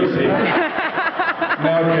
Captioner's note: laughs